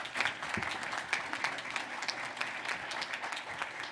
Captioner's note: applause